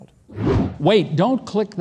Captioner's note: air whooshing